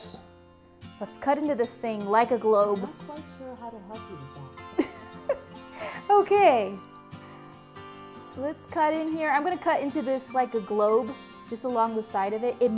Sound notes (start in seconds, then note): 4.7 giggles